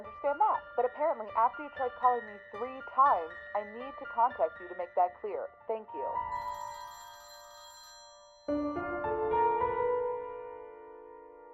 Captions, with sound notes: But apparently after you tried calling me three times, I need to contact you to make that clear. Thank You! *phone ringing*